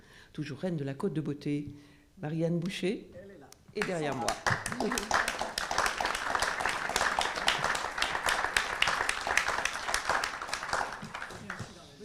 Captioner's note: applause